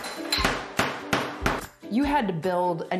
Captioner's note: hammering